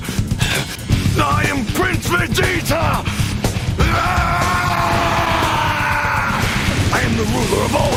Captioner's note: yell